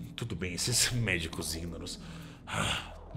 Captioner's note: sigh